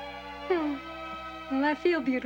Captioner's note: scoffs